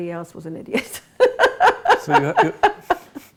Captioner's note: laughs